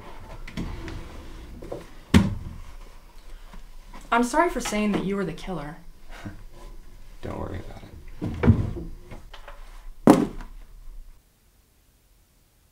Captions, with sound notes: [drawer opening] I’m sorry for saying you’re the killer. Don't worry about it. [knife and gloves dropping on the floor]